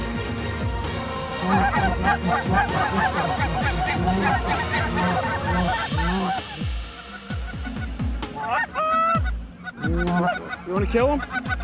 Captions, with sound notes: (GOOSE CALLS) >>DO YOU WANT TO KILL THEM?